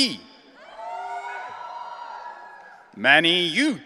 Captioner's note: audience cheering